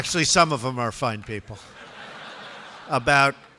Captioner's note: laughter